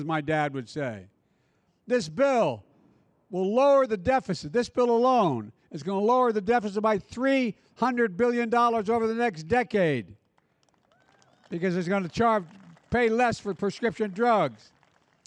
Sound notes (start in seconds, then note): 10.2 applause